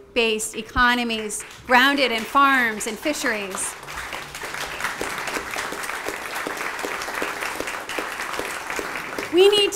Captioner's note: applause